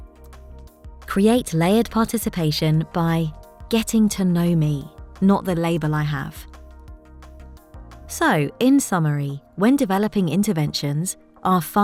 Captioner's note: automated Narration